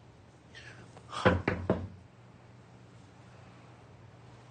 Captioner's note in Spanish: Toques en la puerta